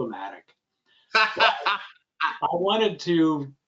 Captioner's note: laughing